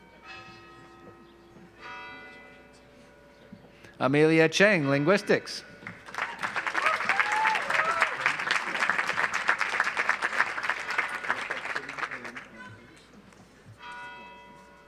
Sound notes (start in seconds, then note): 5.8 audience applauds